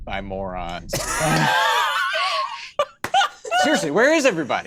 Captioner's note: laughs